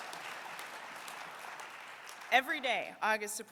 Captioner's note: applause